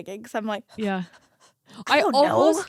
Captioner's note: panting